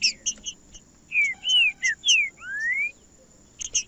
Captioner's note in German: trinca ferro cantando